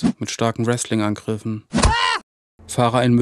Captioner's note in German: Schräger Schmerzensschrei